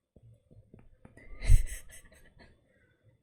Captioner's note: laughs